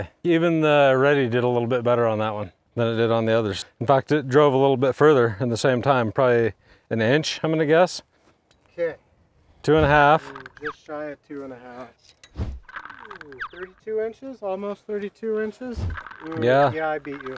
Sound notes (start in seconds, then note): 10.3 digital clicking; 12.7 digital clicking; 16.9 digital clicking